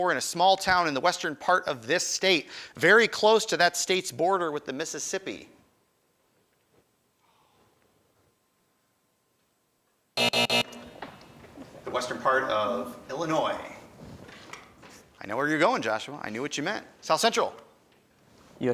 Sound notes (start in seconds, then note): 10.2 alarm buzzes